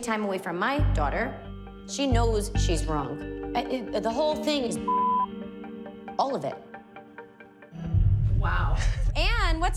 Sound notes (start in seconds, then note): 5.0 stammers